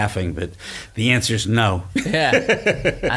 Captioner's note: laughs